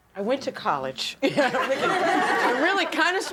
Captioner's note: laughter